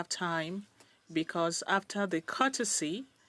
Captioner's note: speaking French